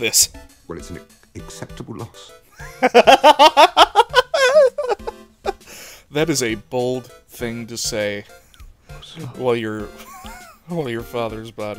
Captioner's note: laughter; wheeze